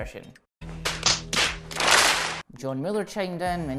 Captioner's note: smack